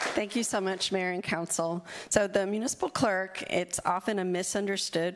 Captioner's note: applause